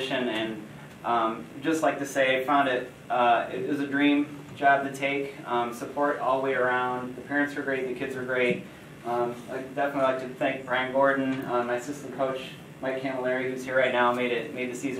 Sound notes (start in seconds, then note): none